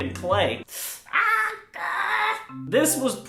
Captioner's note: yet another sound of pain